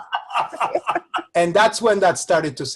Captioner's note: laugh